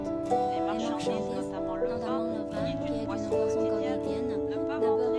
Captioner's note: French